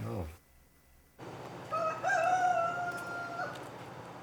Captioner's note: rooster crows